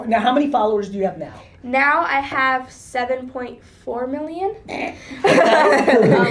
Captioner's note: Gary chortles